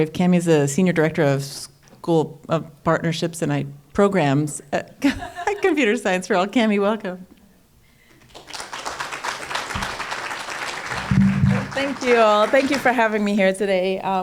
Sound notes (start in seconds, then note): 8.1 applause